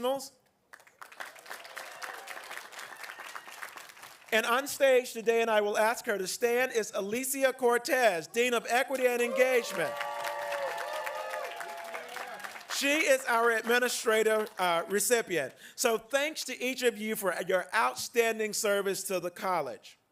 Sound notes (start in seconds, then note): 5.1 applause